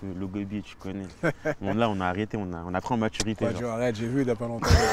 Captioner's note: laughs